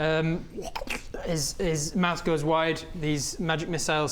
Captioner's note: slurp